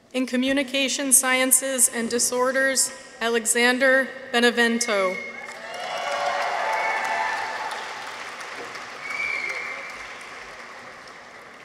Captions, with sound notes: In Communication Sciences and Disorders. Alexander Benevento. -(people cheer) -(audience applauds)